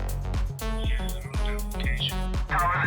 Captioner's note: background radio chatter